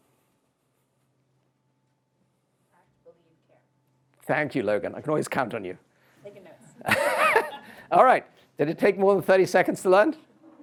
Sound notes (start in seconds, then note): 6.8 chuckles